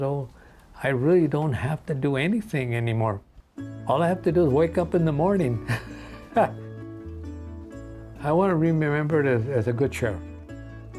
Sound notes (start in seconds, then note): 5.6 laughs